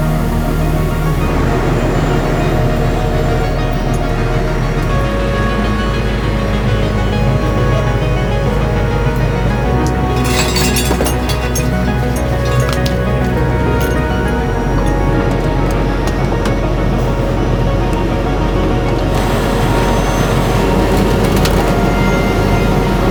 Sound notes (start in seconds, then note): 9.8 metal clanging; 13.3 upbeat instrumental music continues; 16.0 car creaking; 19.3 tow truck winch whirring